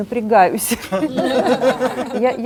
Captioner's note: laugh